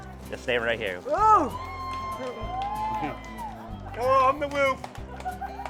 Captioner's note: crowd cheering